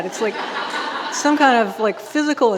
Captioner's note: audience laughing